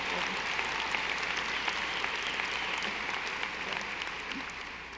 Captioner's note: audience applauding